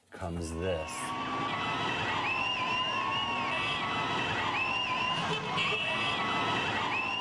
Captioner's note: crowd cheering; cars honking